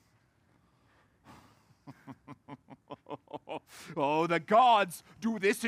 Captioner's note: laughs